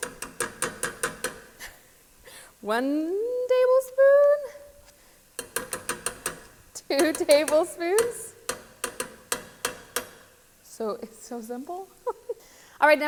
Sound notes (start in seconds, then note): 0.0 tapping spoon; 1.9 chuckling; 5.4 tapping spoon; 9.4 tapping spoon; 12.0 giggling